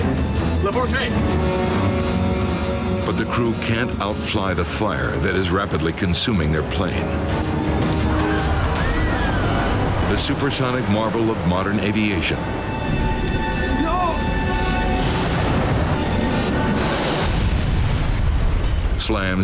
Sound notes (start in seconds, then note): 7.8 passengers shrieking; 17.7 jet exploding